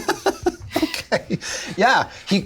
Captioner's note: laughs